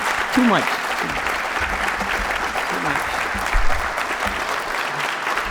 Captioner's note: applause